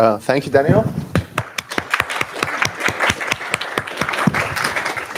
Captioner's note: applause